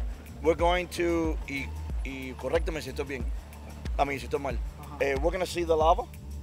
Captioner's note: speaks in foreign language; foreign language